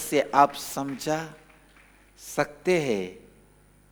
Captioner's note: hindi